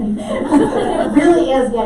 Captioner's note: laughter